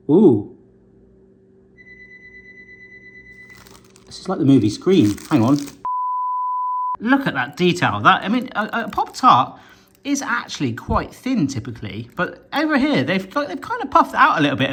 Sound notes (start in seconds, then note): 1.8 alarm sounding; 6.2 film reel beeping